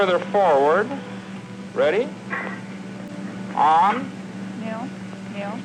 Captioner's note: static